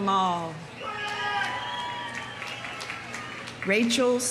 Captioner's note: audience cheering; audience applauding